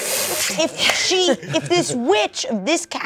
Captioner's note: laughs